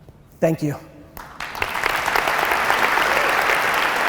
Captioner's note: applause